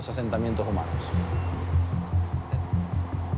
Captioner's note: speaks in Spanish; device beeps; rhythmic music